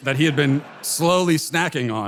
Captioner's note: audience laughter